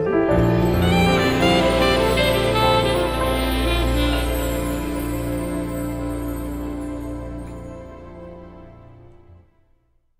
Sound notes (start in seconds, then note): 0.0 soft Christmas jazz; 3.8 bells ring